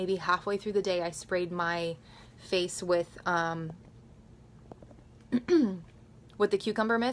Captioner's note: clears throat